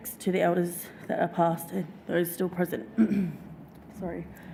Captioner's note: clears throat